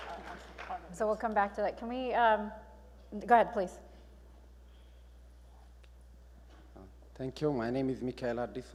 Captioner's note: applause